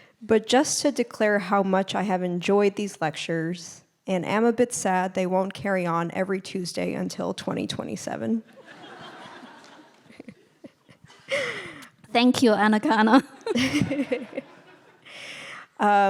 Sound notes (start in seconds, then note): 8.5 all laughing; 13.2 laughing